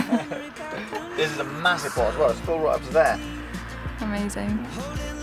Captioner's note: laughs